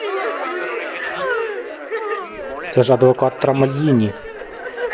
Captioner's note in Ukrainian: плаче; плач